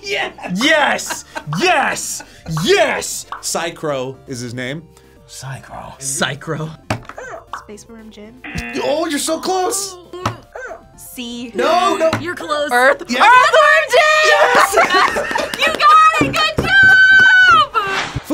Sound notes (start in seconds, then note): 8.4 buzzer barks; 8.4 buzzer